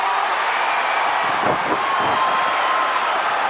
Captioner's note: crowd cheers